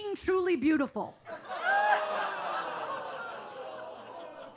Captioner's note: audience laughs